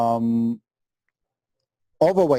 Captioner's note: pause